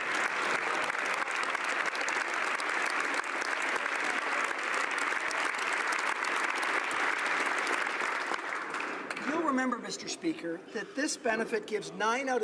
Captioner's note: applause